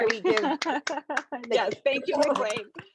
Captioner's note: claps